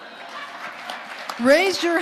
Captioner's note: audience applauding